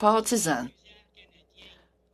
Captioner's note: speaking French